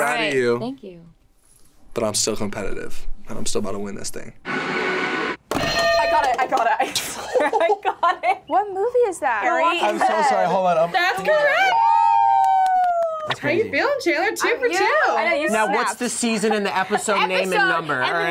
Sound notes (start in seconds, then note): 5.6 bell rings; 6.9 laughs